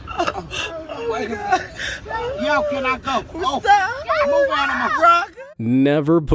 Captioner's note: laughing